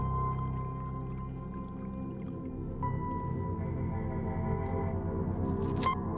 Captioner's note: liquid bubbling